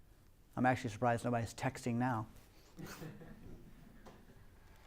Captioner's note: laughter